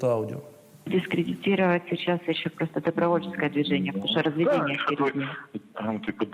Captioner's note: speaking Russian